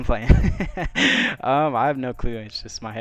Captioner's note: laughs